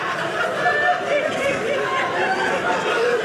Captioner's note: audience laughing